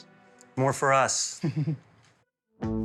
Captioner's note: chuckles